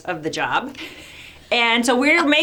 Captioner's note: laughing